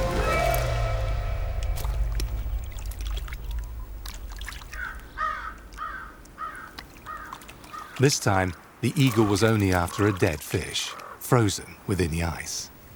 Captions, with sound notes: (bird cries) This time, the eagle was only after a dead fish, frozen within the ice.